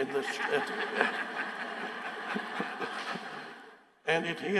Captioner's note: audience laughing